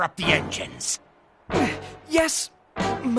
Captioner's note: grunting